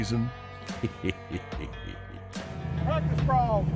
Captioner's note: laughing